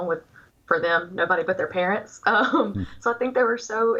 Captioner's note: giggles